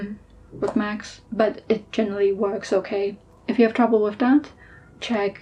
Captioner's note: doubtful noises